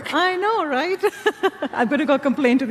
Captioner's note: chuckles; laughs